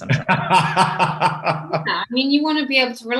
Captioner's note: laughs loudly